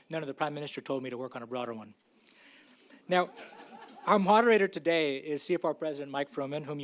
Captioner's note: laughter